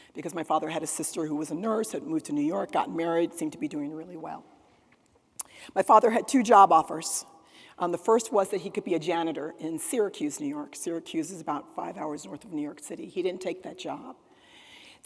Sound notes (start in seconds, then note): none